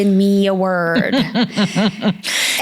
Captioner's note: laughing